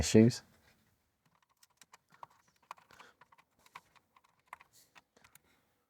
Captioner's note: keyboard Clicking